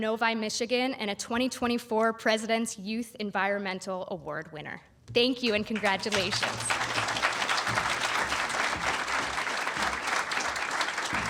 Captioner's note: applause